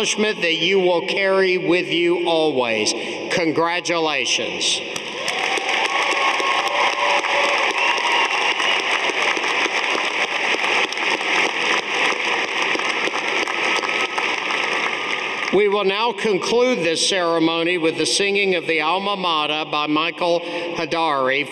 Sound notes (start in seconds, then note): 4.8 audience applauding